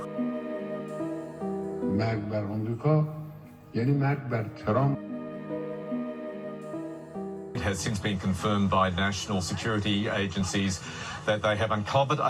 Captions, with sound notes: [Somber music] [Speaking in a foreign language] - It has since been confirmed by national security agencies that they have uncovered